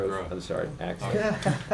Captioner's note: laughter